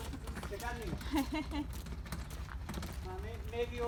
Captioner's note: hahaha